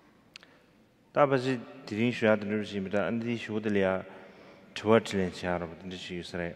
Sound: speaking in foreign language

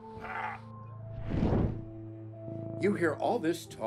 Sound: groaning

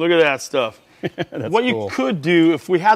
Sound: laughs

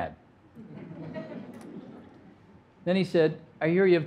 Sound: audience laughing

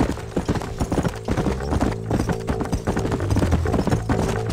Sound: horse galloping; intense music

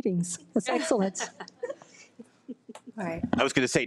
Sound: women laughs

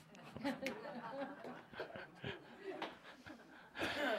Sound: some laughter

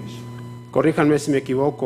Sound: speaking foreign language

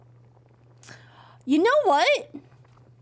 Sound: gasps

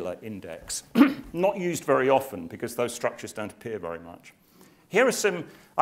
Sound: cough

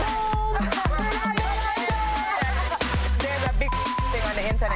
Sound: Bambi shouting; beep

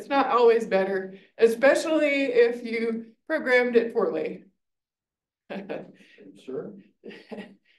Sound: chuckles

